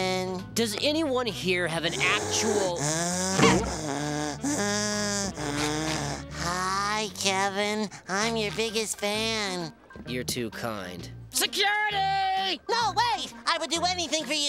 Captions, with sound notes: Does anyone here have an actual-- [heavy breathing] Hi, Kevin. I'm your biggest fan. You're too kind. Security! No, wait. I would do anything for you.